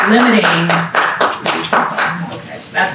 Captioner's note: clapping